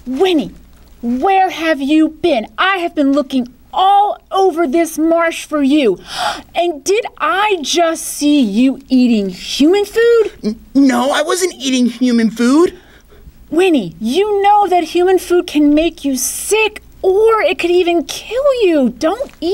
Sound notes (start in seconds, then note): 6.0 gasp